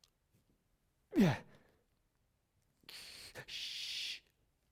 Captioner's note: grunting